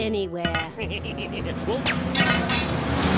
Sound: laughs wickedly

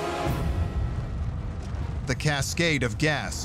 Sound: fire roaring

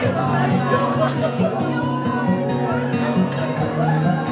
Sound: laughing

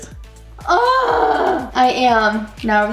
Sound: groan

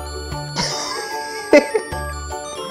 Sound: laughs

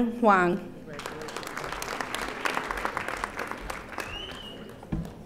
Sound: audience applauding

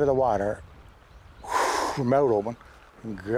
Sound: whooshing air

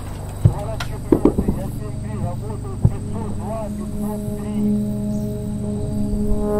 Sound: radio exchange

